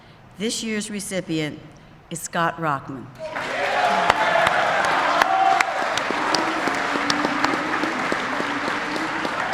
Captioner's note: applause